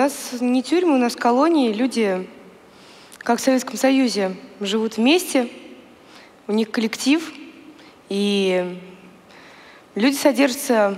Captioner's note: foreign Language